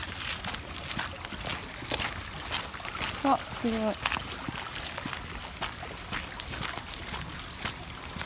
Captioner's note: the sound of the stream is good